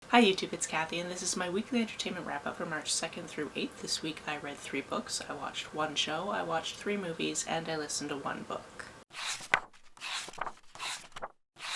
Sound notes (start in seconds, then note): 9.1 pages turning